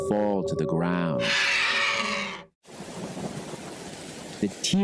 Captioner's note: vultures shriek